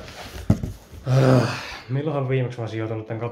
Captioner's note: angry sigh